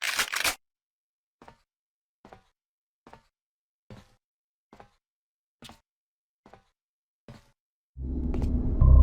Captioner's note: generic shuffling and crunching; very quiet footsteps and nothing else